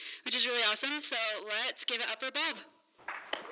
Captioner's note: applause